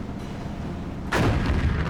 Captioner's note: cannon firing